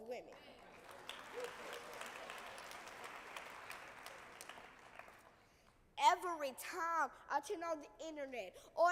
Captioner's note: applause